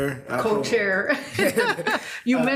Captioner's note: laughs